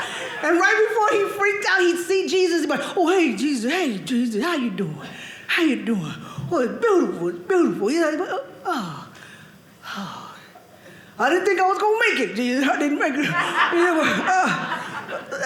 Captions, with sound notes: And right before he freaked out, he'd see Jesus, and he'd be like, "oh, hey, Jesus. "Hey, Jesus. "How you doing? "How are you doing? "Well, it's beautiful." He'd be like, "oh. "I didn't think I was going to make it. (audience laughing)